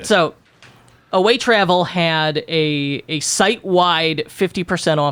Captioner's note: none